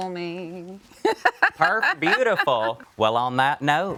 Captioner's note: laughing